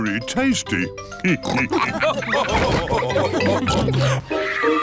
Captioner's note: all laugh